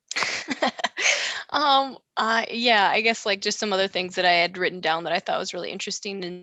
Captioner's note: laughs